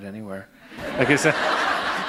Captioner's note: laughter